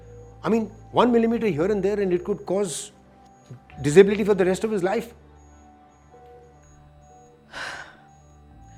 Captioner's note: sighs